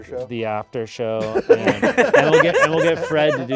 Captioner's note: all laughing